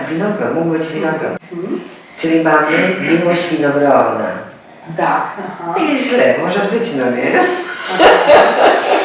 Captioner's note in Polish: śmiech